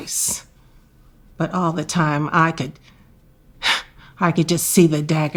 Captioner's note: scoffing